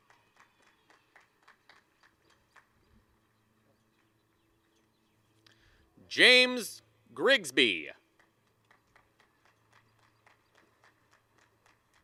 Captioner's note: applause; applause and cheering; applause